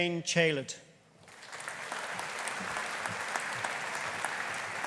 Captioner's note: audience applauding